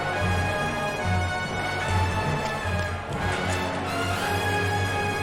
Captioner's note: quick footsteps